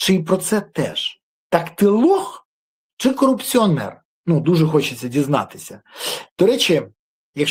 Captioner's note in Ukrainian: сопіння